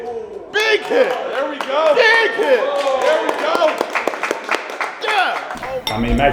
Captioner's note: audience shouting and applauding